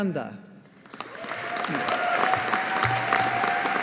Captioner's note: audience applauding